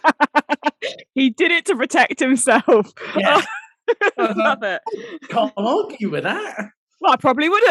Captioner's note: laughing